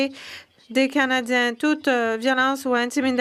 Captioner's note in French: voix de l'interprète